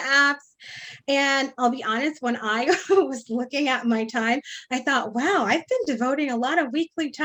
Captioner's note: laughs